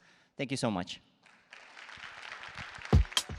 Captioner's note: applause